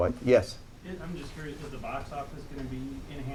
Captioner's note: voiceover